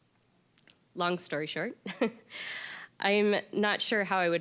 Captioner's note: chuckling